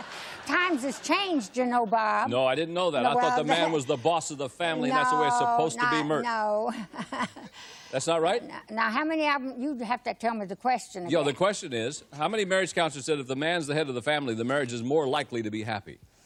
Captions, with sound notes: [laughs] times has changed, you know, Bob. - No, I didn't know that. I thought the man was the boss of the family. And that's the way it's supposed to be, Myrt. - No. [chuckles] - That's not right. - Now, how many of them-- you have to tell me the question again. - Yeah, the question is, how many marriage counselors said if the man's the head of the family,